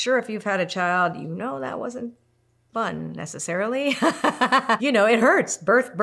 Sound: laughs

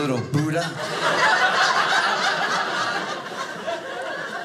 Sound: audience laughing

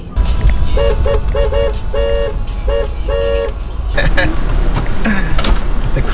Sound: horn honking

